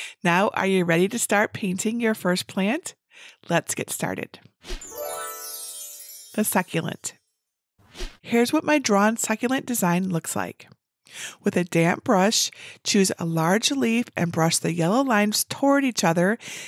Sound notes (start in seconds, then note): 4.8 bells tinkling; 4.9 image whooshing